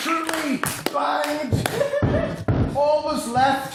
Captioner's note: graphic love-making noises